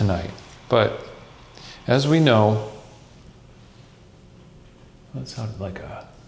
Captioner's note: air hissing